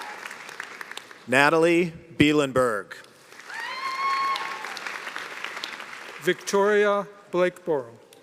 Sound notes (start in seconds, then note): 0.9 cheers and applause